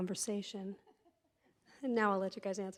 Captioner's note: laughs